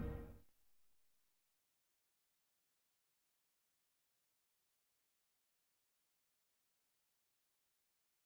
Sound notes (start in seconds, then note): 0.0 silence